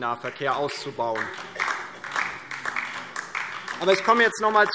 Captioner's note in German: Beifall DIE LINKE